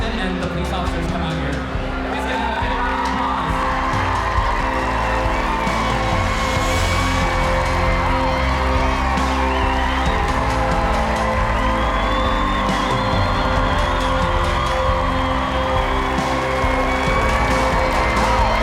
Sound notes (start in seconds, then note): 3.8 cheering; 6.5 applause